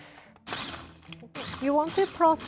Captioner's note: food processor running